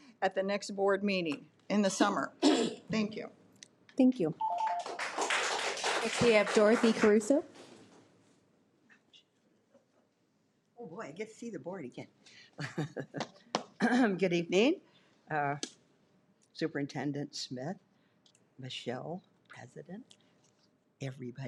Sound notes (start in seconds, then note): 4.5 audience applauds; 12.5 laughs